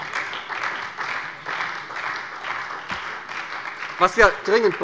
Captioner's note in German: Beifall bei der SPD